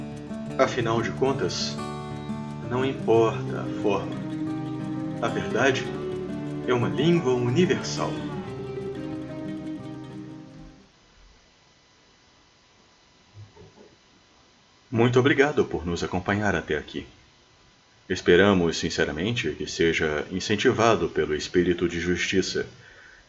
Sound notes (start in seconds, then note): 8.6 true and sincere silence